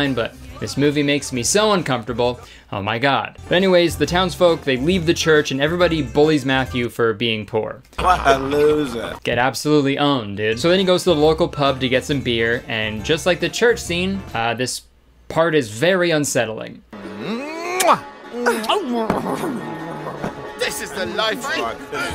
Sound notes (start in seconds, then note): 17.1 man grunting; 18.4 woman giggling; 21.4 lips smacking